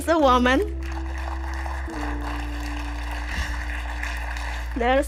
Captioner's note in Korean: 박수 소리